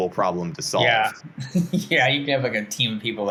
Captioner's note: laughs